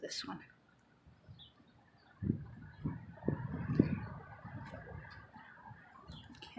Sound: footsteps

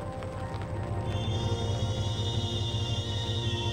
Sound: mysterious sound

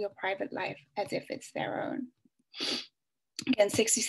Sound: sniffs

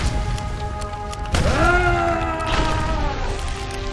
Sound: ghost yells

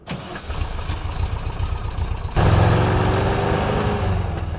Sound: van driving

